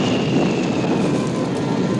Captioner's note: crackle; thunder